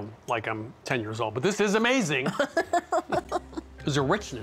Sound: laughs

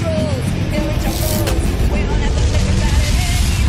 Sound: lightning crackles and hums

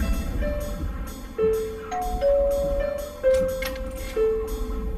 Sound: door hatches open; doorbell rings

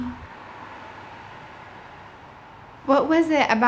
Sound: traffic sounds

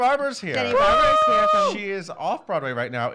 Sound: cheers

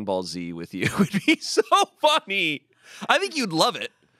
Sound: laughs

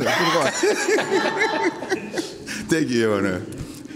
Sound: laughing

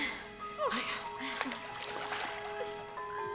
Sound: groaning

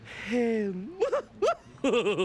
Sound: laughs

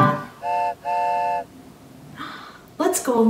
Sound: train honks

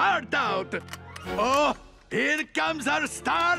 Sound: door opens

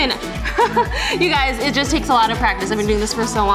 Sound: chuckles

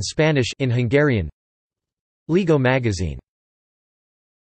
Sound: in Hungarian

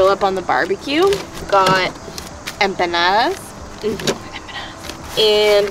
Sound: whispers

